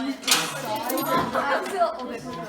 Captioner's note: laughing